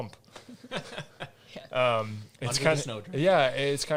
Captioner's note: all laugh